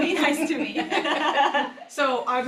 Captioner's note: all laugh